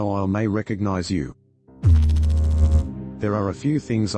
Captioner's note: electrical noise